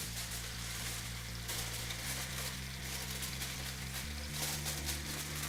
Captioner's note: tinfoil crinkling